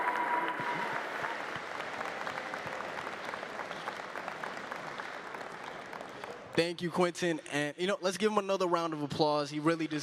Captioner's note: cheering and applause